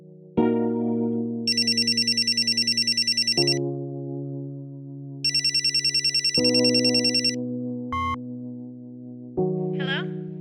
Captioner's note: phone rings